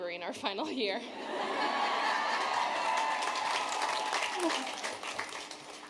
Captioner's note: audience cheering